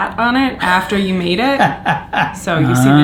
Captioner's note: laughs